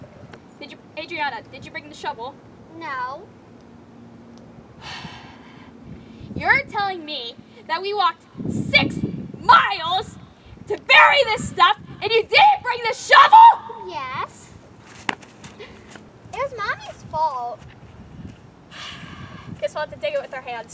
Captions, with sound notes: Adriana, did you bring the shovel? No! (Sigh) You're telling me... That we walked six miles, to bury this stuff... And you didn't bring a shovel?! Yes! It was mommy's fault... (Sigh) Guess we'll have to dig it with our hands.